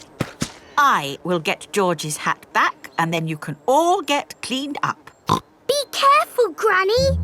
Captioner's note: snorts